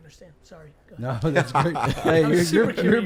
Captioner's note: laughs